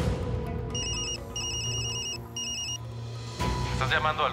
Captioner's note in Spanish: suena el celular